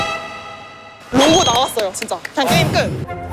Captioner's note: jingle-jangle